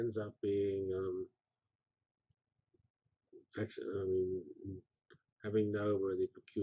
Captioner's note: pause